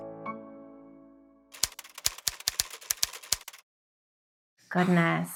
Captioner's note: typing